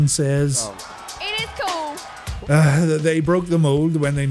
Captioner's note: sigh